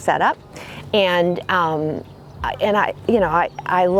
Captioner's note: stammers